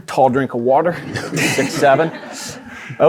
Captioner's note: audience laughing